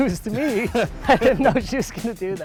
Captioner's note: laughing